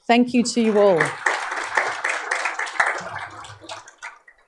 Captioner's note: applause